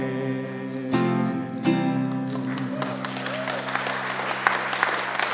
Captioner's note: congregation applauds